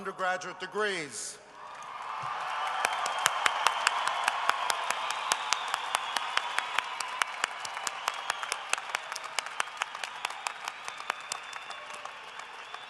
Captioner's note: cheering and applause